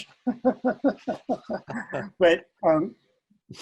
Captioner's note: laughing